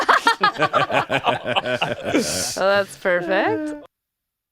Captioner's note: laughter